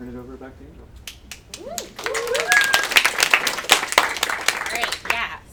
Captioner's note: audience applauds